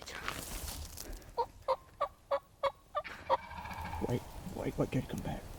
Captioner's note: turkey calling